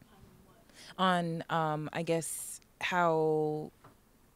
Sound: voiceover

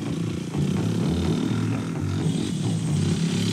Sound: rock music; engine revs

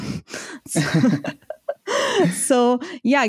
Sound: laughter

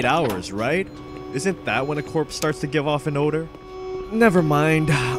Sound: alarm blares; button clicks

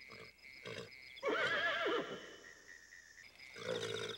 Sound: Sam neighs

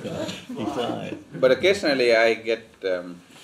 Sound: laughter

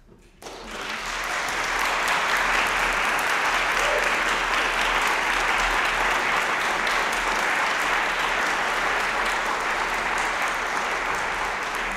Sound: applause

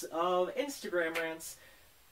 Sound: clap

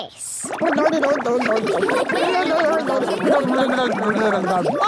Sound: children laughing

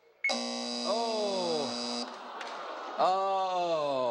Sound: buzzing

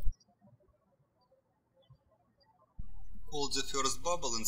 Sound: bird chirping

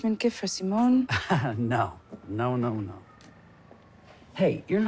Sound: chuckles

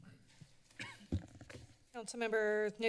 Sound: coughing

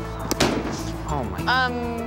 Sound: balloon pops

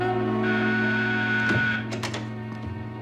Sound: buzzer

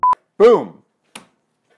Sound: beep

